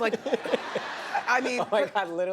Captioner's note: laughs; audience laughter